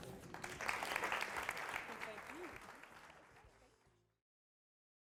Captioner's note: applause